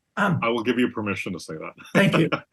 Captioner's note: laugh